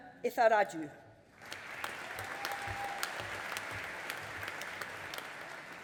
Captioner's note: audience applauding